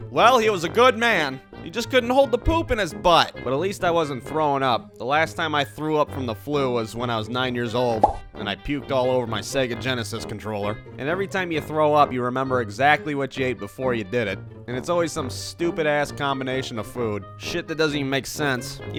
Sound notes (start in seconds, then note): 7.9 pop